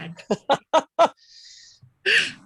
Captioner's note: laughing